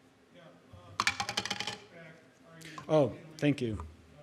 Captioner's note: object clattering